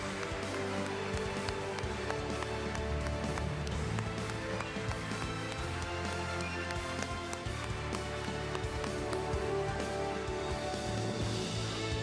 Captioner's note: applause